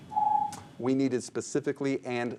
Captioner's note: ring